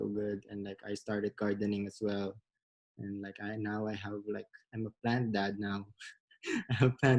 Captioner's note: laughs